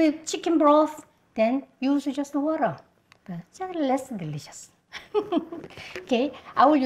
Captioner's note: laughs